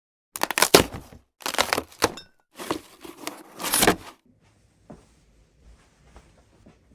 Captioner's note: carRddboard sound effectt